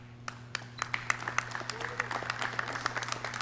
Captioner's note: clapping